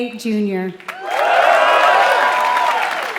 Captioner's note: applause